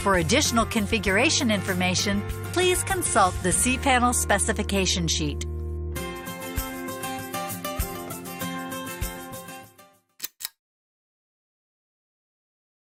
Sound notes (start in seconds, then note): 10.2 click